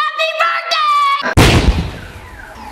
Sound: explosion

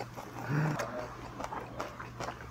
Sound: gasp

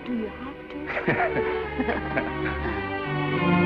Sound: both laugh

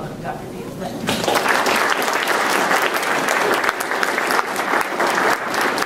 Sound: applause

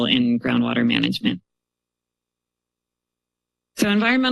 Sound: pause

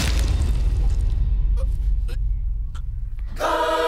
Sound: man struggling

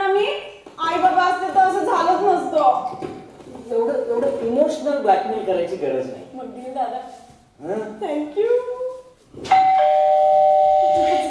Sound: bell rings

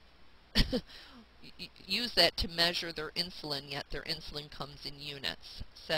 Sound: chuckles

